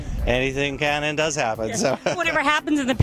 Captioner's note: laughs